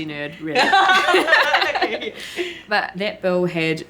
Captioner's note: all laughing